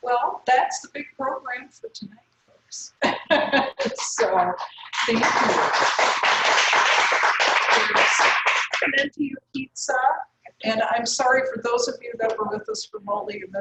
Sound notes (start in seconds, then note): 3.0 laugh; 4.5 applause